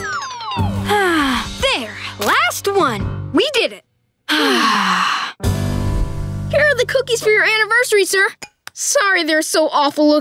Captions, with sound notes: [sighing] There. Last one, we did it. [sighing] Here are the cookies for your anniversary, sir. Sorry they're so awful looking.